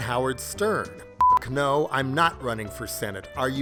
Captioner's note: beep